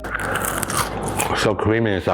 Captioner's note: potato crunching